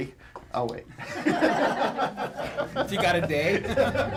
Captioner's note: crowd laughs